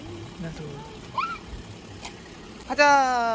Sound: happy screaming

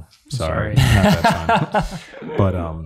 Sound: laughs

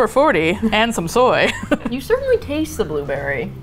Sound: laughs

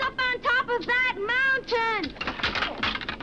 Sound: Beppe groans; skis clattering

